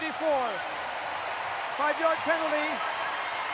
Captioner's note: cheering